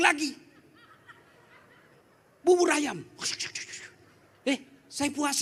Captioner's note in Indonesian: tertawa